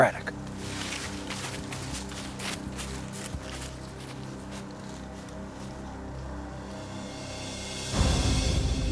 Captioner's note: footsteps